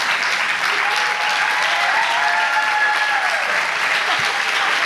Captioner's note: audience cheers